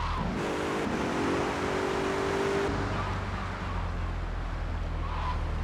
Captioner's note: engine revving